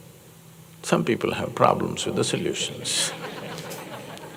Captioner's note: laughter